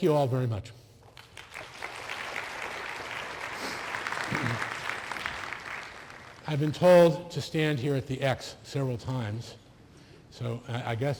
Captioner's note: applause